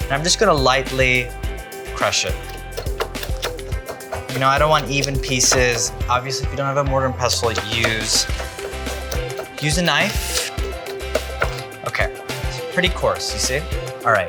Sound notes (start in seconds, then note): 2.2 pestle grinding; 10.4 upbeat music